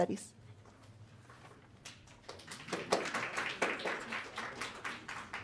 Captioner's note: audience clapping